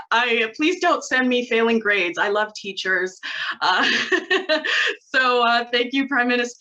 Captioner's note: laughs